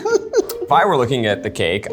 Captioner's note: laughs